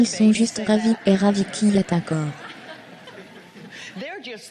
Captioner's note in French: en riant